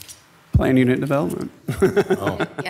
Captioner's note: laughing